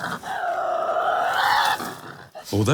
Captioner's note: growling